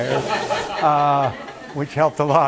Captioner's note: laughter